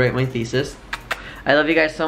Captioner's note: kiss noises